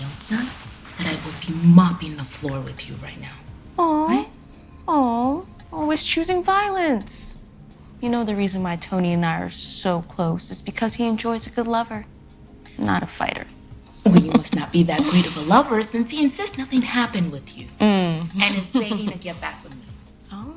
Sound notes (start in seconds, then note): 14.0 Kira laughing; 17.8 laughing